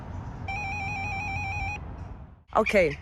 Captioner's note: intercom rings